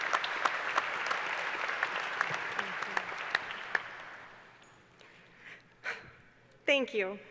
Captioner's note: applause